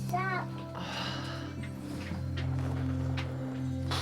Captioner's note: sighs